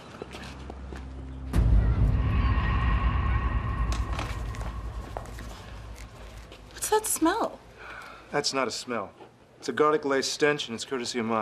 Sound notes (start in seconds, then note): 7.8 sighing